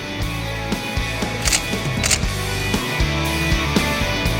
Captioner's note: he clicks the shutter